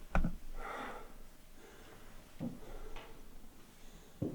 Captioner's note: Jacob panting